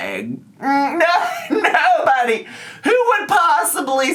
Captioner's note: laughs